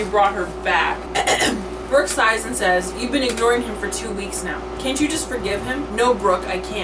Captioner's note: ahem